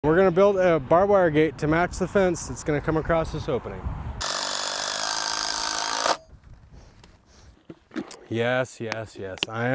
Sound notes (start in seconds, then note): 4.2 driller roaring